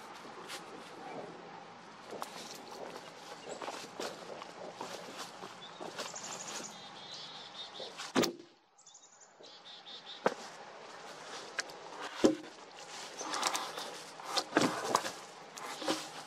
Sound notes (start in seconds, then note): 0.0 branches and leaves crackling, effort grunts; 1.9 footsteps in leaves, log being dropped on the work; 9.3 chickadees chirping, wood cracking and dragging, leaves rustling